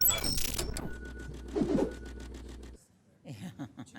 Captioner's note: shrill digital music; swooshing; chuckling